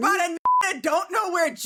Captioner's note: beep